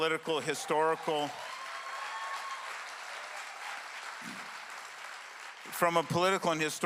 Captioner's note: clap with cheering